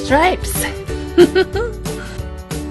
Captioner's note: laugh